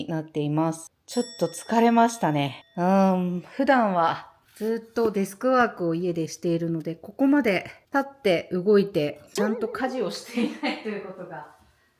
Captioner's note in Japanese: 苦笑